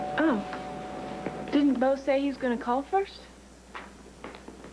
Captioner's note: doorbell rings